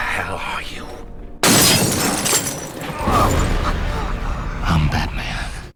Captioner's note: Shattering glass, Falcone grunts